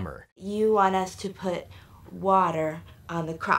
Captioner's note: none